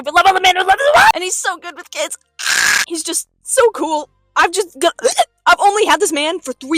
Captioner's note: weird throat noise